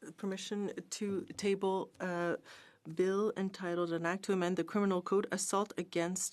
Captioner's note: speaking in French